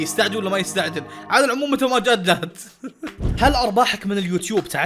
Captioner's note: chuckles